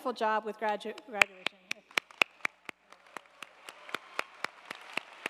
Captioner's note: audience applauding